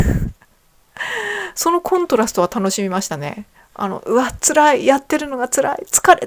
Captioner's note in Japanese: 息をのむ音